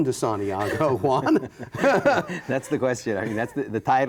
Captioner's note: both laughing